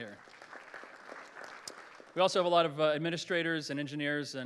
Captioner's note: applause